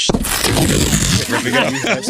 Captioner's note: blowing